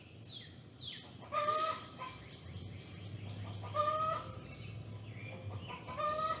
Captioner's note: chicken clucking